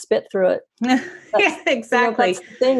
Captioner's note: laughing